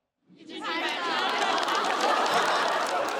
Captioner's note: keep clapping